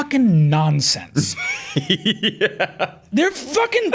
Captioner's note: laughing